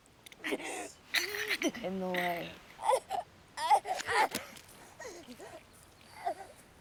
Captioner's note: Abigail grunting